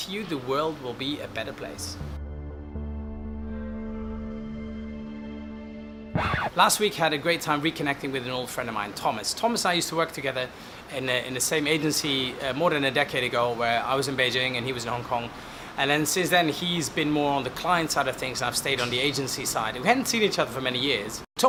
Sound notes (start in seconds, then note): 2.6 soft electronic music; 6.1 record scratch